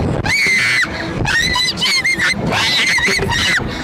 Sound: screaming

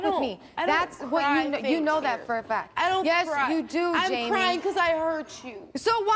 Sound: none

